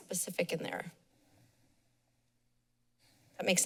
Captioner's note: pause